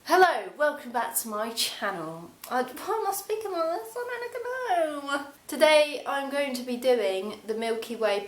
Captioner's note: in sort of American accent